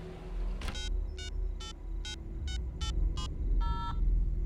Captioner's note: keypad beeping